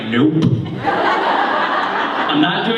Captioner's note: laughter